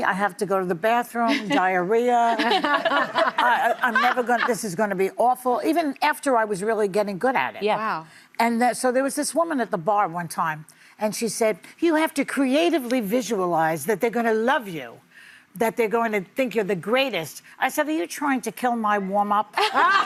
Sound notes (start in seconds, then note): 2.4 audience laughing